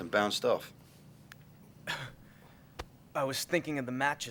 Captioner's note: chuckles